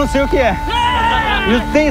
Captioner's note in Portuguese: grita